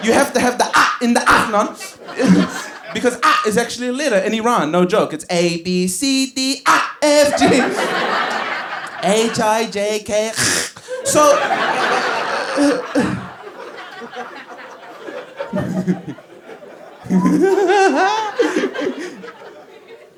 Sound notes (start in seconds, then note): 2.1 giggles; 11.9 giggles; 15.4 giggles